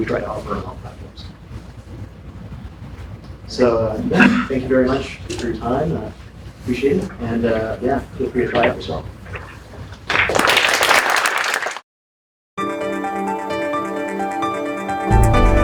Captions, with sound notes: that we try to offer then on platforms. So with that thank you very much for your time. Appreciate it and, yeah, feel free to try out the software. (clapping) (upbeat music)